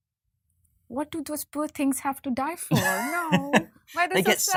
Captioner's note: laughs